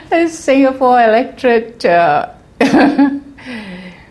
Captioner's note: laugh